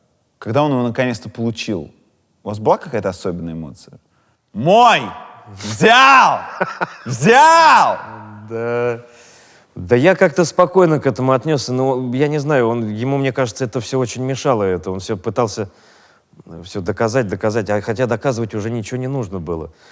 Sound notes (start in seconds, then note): 5.6 Burunov laughs